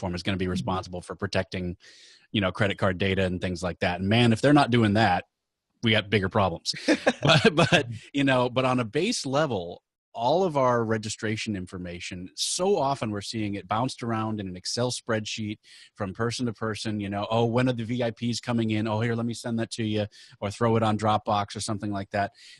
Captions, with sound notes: is gonna be responsible for protecting credit card data and things like that, and man if they're not doing that, we have bigger problems. (all laughing) But, on a base level, all of our registration information, so often we're seeing it bounced around in an Excel spreadsheet from person to person, oh, when are the VIPs coming in? Oh here, let me send that to you, or throw it on Dropbox or something like that.